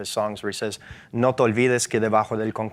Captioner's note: speaks in foreign language